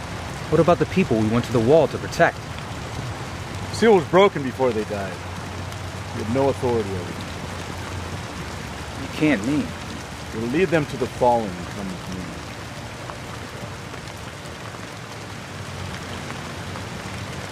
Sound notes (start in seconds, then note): none